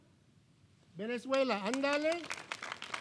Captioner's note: clapping; speaking in foreign language